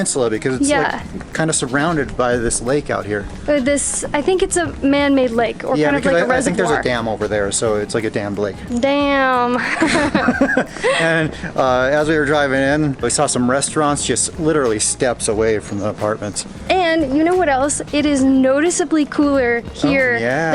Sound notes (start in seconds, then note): 9.6 laughter